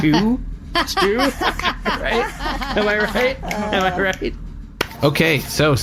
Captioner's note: laughs